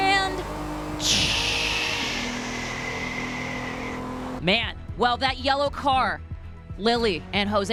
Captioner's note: blows air between teeth